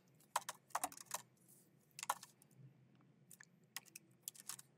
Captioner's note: keyboard clacking